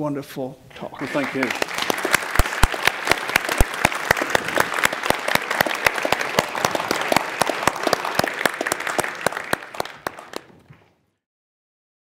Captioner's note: applause